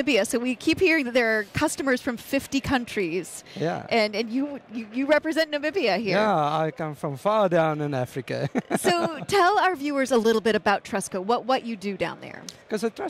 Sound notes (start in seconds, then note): 8.4 laughs